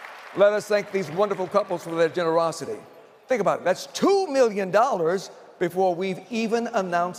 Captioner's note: applause